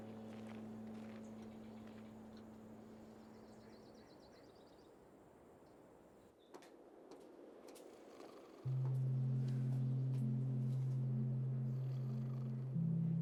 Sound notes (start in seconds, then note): 8.0 snoring